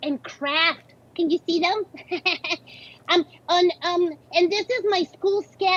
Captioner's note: laughs